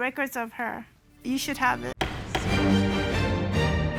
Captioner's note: dramatic music; gavel bangs